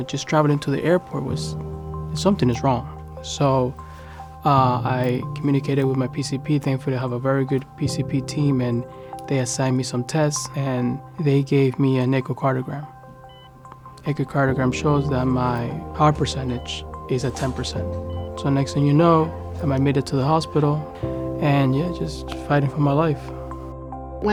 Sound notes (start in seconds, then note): 13.3 machine beeping